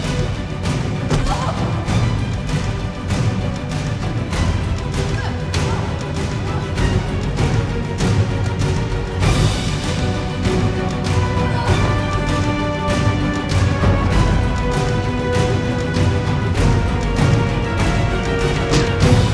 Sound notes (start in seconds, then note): 1.1 both grunting; 5.1 both grunting; 12.8 suspenseful orchestral music continues